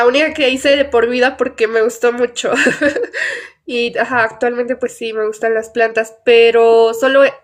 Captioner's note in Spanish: risas